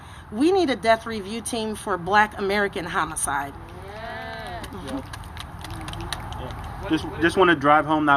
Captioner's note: applause